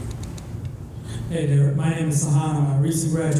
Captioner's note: voiceover